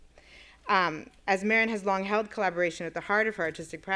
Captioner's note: none